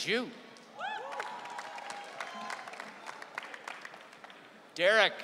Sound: audience cheering

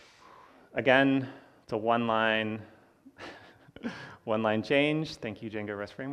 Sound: laughs

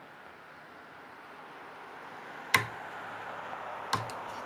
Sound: cars drive past

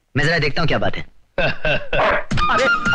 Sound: laughing, Dog Bark

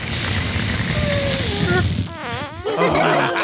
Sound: bag squeaks; children laugh

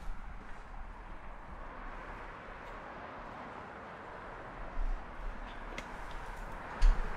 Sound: traffic sounds

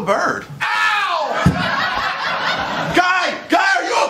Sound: laughter

